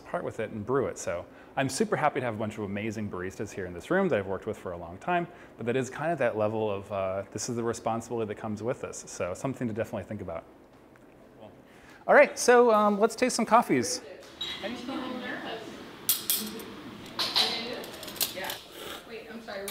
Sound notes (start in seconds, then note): 16.0 cups clinking; 18.6 slurping